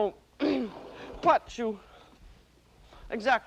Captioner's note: clears throat